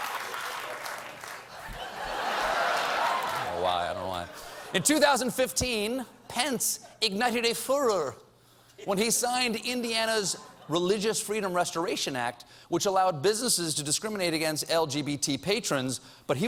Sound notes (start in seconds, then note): 0.0 applause; 1.5 laughter